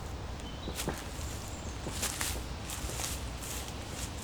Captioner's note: birds chirp